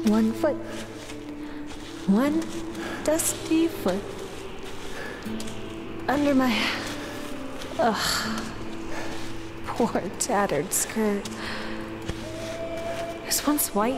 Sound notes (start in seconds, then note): none